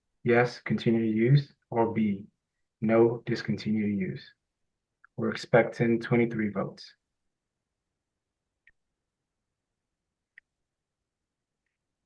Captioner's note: pause